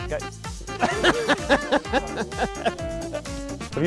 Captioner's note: laughs